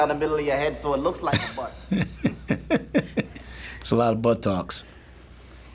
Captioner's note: chuckles